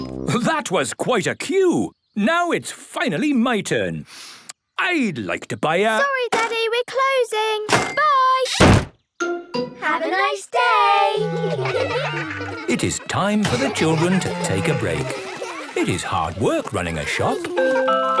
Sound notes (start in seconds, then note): 11.2 children giggling